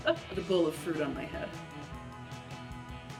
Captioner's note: laughs